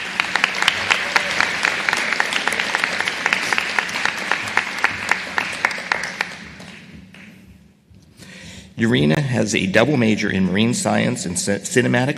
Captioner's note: applause